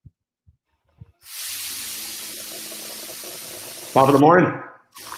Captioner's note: sizzling